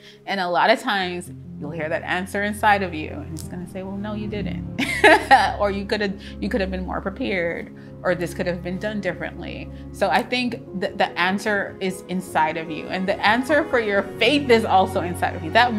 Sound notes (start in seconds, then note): 4.8 laughs joyfully